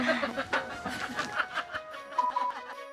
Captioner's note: laughing